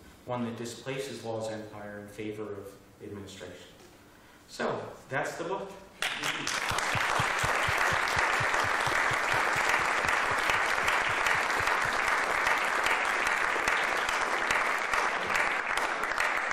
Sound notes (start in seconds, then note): 6.0 applause